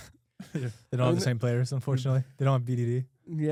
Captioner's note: laughs